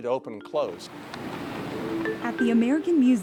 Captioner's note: wind blowing